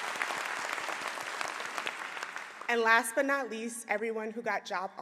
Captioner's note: applause